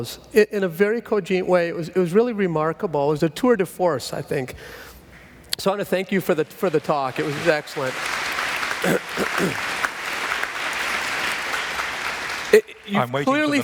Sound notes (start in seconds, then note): 11.1 applause